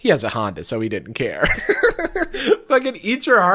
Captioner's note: laughs